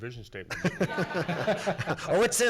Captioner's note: everyone laughs